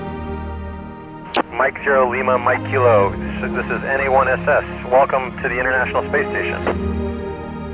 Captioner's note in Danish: Over radioen